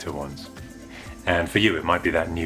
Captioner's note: woosh!